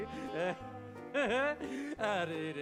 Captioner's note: laughs